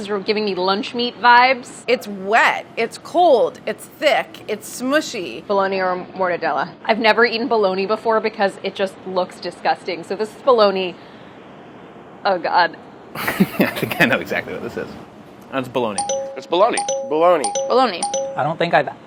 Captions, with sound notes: is giving me lunch meat vibes. - It's wet, it's cold, it's thick, it's smushy. - Bologna or mortadella. - I've never eaten bologna before because it just looks disgusting so this is bologna, oh god. [laughing] I think I know exactly what this is. It's bologna. [dinging] - It's bologna. [dinging] - Bologna. [dinging] - Bologna. [dinging]